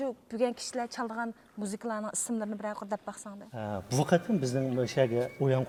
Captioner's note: speaking in Chinese